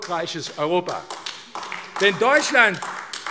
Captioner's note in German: Beifall AfD